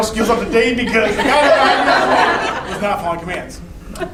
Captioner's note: laughing